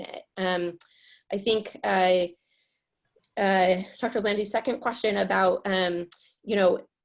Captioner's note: mutters